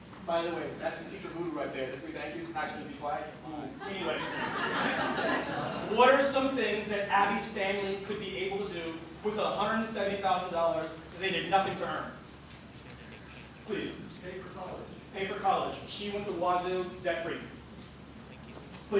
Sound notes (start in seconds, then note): 3.8 laughter